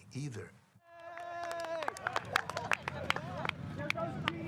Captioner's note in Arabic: الناس يصفقون